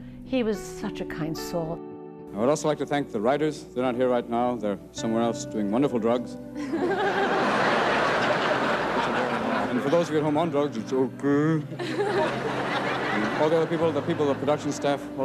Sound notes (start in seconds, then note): 6.6 audience laughing